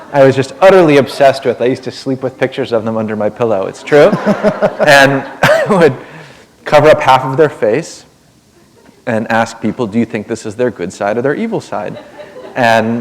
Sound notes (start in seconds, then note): 4.0 laughter